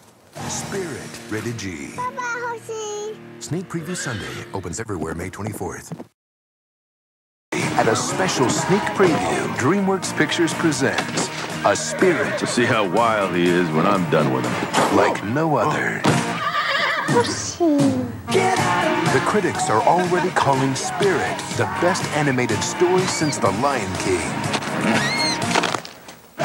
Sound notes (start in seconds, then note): 12.5 chuckling by grabbing a towel; 16.2 the horse whinny